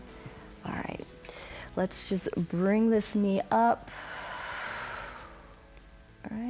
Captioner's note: exhales